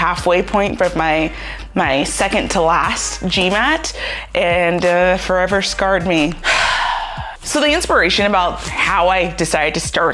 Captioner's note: sigh